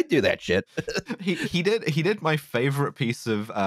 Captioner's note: laughter